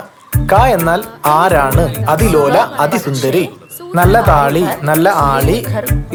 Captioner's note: Reciting Kunchan nambiyar poem